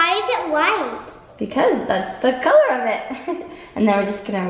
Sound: chuckles

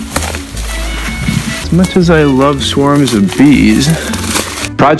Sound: whining

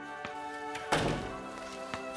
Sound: door closes

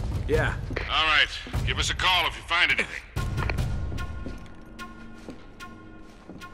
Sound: radio

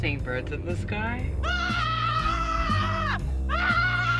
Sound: yells

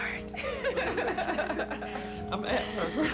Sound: laughter

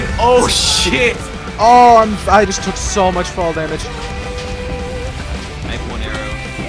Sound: constant barrage of explosions

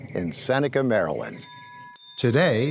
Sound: bell ringing

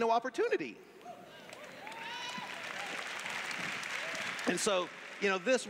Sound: cheers

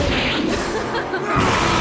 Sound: laughter

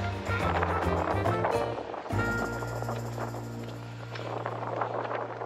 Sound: wind blowing

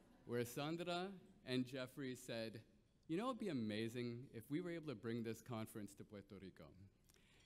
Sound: none

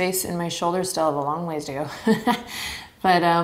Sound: chuckles

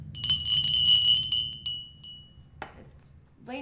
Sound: bell rings

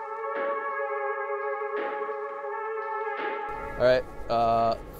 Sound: electronic sound

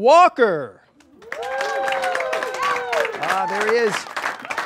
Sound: audience cheers

